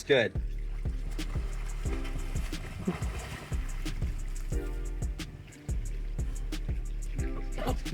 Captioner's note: water splashing